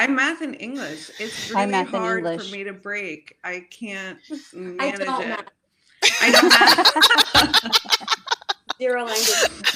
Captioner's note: laughter